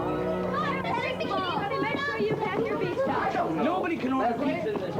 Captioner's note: family Chattering